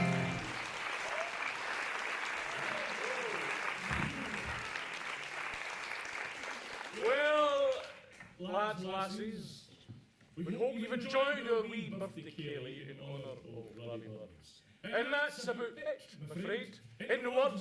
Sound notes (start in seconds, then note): 1.5 applause